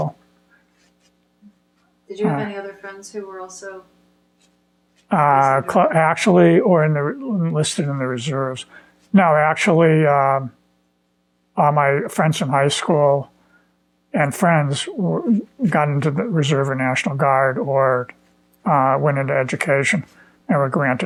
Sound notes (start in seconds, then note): 14.7 laughing